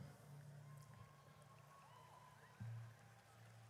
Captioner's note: audience cheers